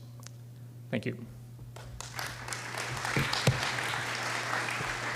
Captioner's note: applause